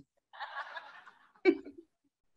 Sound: audience laughing; laughs

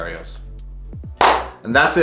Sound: clap

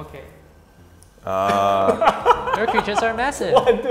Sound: laughs

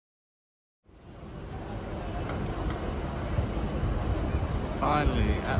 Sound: ambience outside London Bridge station

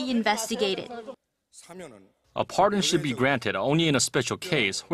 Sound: Korean

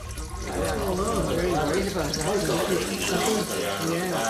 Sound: crowd Murmuring

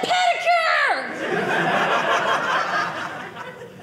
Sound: audience laughing

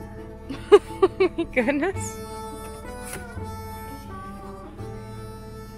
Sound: laughs; blues music

